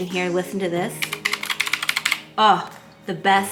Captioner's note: fingers tapping